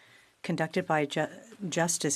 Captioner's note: speaking French